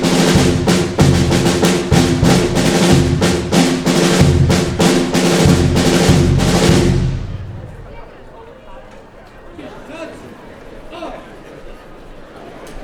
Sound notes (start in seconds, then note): 7.5 chatter